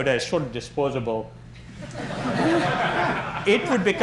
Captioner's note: laughter